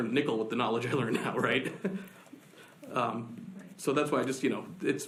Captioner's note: laughs